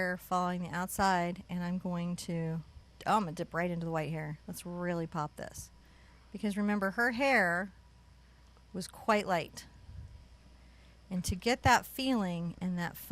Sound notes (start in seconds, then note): none